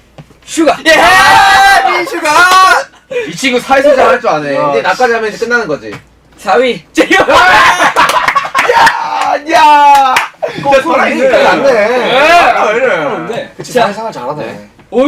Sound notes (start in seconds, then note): 7.3 cheering